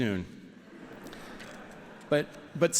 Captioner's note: laughter